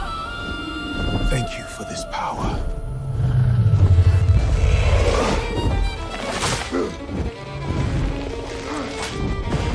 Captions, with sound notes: You are the king of kings. (roaring) YESHUA: Thank you for this power.